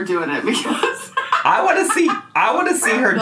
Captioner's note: laughing